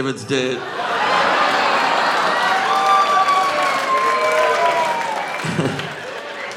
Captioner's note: audience laughing; audience cheering